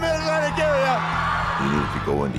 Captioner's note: audience cheers